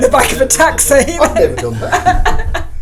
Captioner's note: laughs